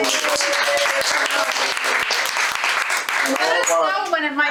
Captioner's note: audience applauding